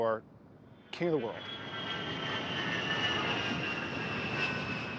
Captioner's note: plane engine roaring